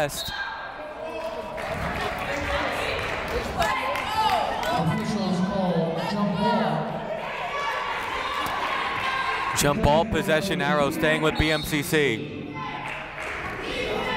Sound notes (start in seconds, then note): 2.8 clapping; 6.4 yelling; 12.6 cheering